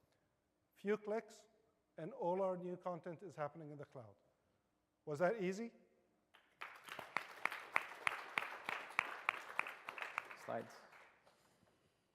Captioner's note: applause